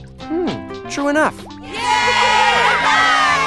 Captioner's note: wild cheering